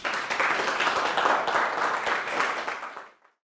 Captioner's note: applause